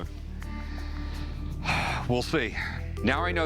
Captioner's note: sighs